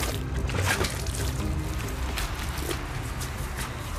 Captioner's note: creature squishes